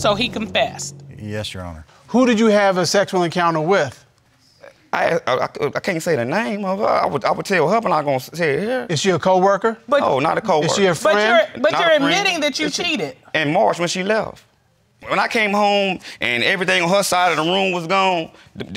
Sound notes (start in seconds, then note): 5.1 stammering